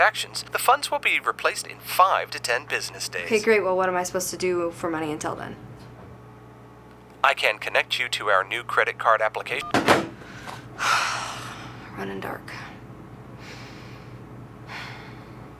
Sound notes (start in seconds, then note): 9.5 line clicks; 10.2 sighs